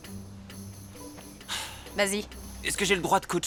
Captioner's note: sighs